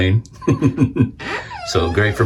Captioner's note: chuckles